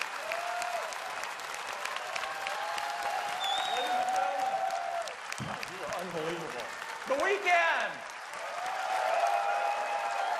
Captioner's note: cheers and applause